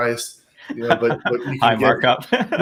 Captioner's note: laughing